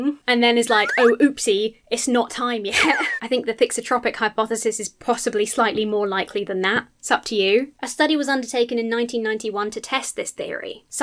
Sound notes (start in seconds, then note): 0.8 slide whistle blows